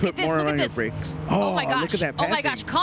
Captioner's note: chatter